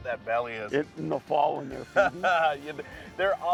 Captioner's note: chuckles